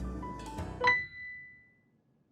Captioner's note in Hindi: नोटिफिकेशन की आवाज़